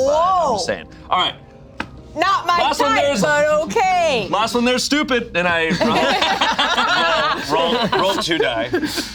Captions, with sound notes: - Whoa. - I'm just saying. All right. - Not my type, but okay. - Last one there's stupid. Then I run. (group laughs) - Roll two die.